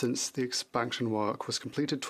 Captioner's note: speaking in French